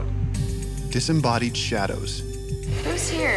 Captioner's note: voiceover